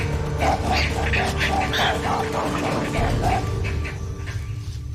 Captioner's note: growling